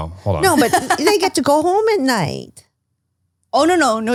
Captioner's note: laughs